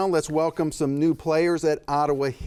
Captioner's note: none